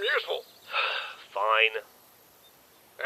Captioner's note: sigh